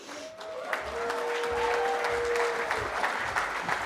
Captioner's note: cheering